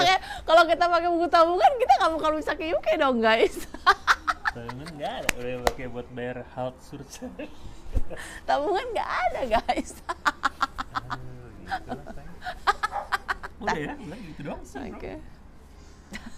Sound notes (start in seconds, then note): 3.5 laughs; 9.4 laughs